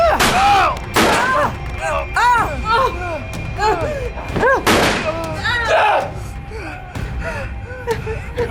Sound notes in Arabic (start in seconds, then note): 0.1 ناثان يتذمر; 0.9 إطلاق نار; 1.0 إيما تتذمر; 4.6 إطلاق نار